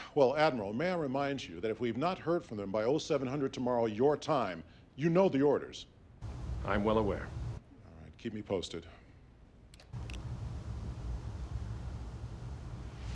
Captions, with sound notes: Well, Admiral, may I remind you that if we've not heard from them by, oh, 700 tomorrow. Your time. You know the orders. I'm well aware. All right, keep me posted. [Finger snap]